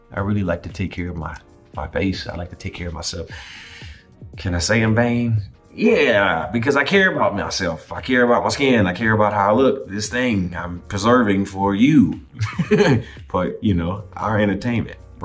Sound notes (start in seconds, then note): 12.4 laughs